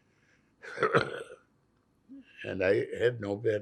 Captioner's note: coughing